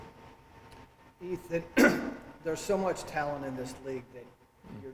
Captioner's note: coughs